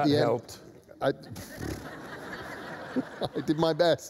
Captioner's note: laughter